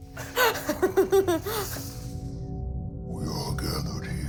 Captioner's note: laughing